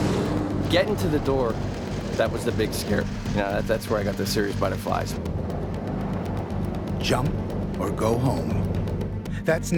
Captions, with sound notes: That's where I got the serious butterflies. - [Voiceover] Jump or go home. That's next time on Devil's Brigade.